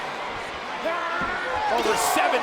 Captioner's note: Kane yelling; crowd exclaiming; Kane yelling